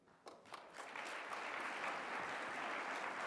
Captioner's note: applause